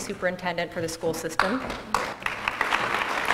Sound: applause

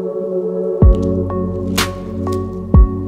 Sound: plastic unwrapping

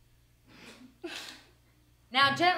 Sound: laughs

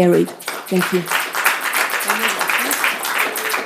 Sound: clapping

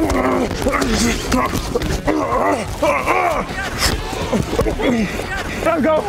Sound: grunting

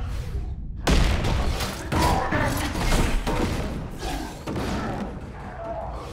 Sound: metal clanging

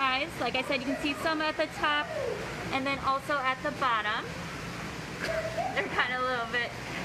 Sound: laughs

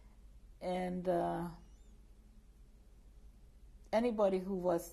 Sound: pauses for 3 seconds

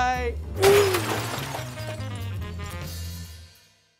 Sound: crash

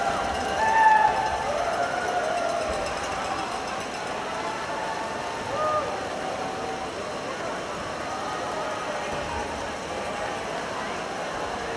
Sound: cheering

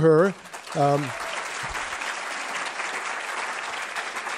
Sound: applause

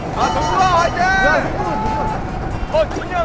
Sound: shouting way to go!

